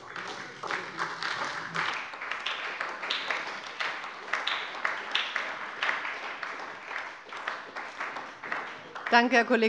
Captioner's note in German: Beifall bei der SPD